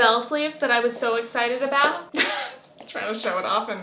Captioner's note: chuckles